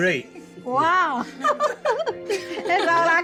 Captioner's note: laughter